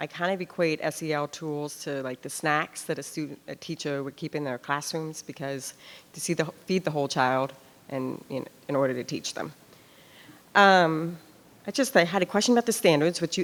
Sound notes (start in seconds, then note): none